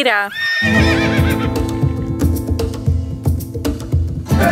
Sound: horse whinnying

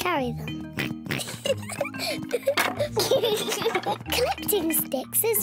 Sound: both giggling

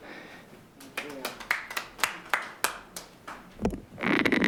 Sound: clapping

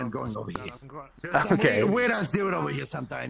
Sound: laughs

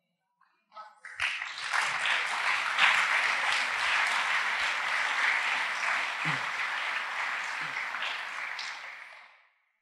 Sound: applause

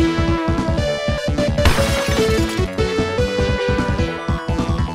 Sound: crash

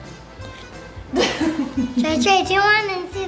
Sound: laughing

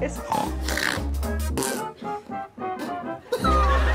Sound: snorts

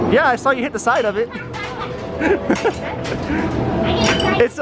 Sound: laughing

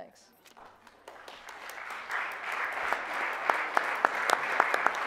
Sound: audience applauds

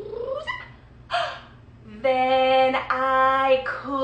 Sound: gasping

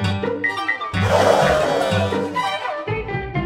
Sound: lively music; audience gasp; lively music

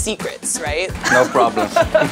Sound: laughs

